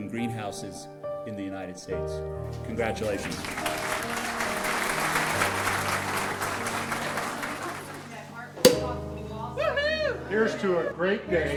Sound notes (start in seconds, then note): 2.9 audience applauds; 8.6 cork pops